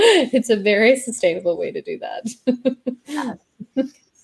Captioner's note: laughs